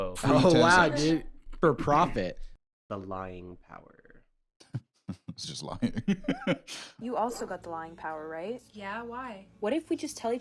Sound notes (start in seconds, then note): 4.6 laughs